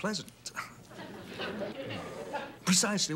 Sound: audience laughing

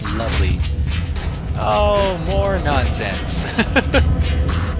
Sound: laughs

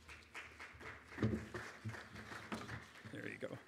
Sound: audience applauds

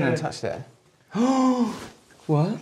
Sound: gasp

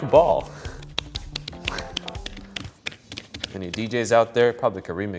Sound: hands slapping

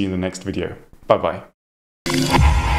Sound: logo whooshing

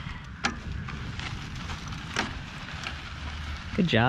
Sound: gravel crunching

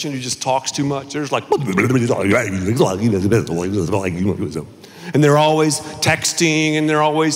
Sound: talking sound effects

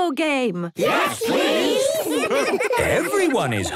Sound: laughter

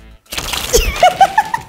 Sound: cards shuffle; laughs

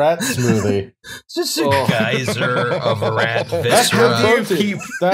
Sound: laughter

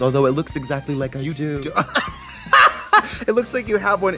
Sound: blonde women laugh

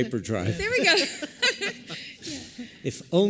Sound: laughter

